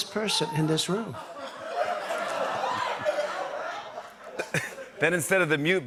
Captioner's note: laughter